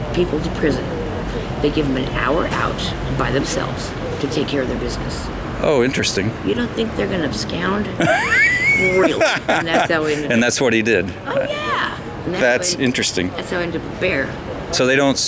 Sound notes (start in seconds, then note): 8.0 both laughing